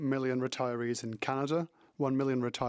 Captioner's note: speaking French